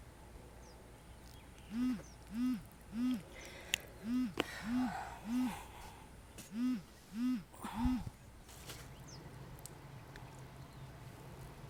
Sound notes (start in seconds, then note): 2.3 phone buzzing; 3.2 sighs